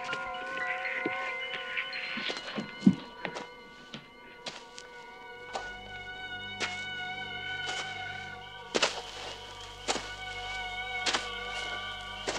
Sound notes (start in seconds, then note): 3.3 footsteps approaching; 8.7 suspenseful music